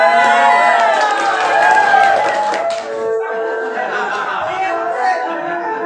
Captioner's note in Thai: ปรบมือ